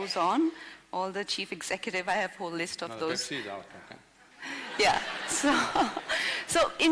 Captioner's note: laughter